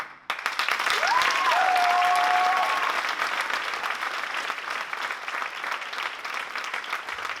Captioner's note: applause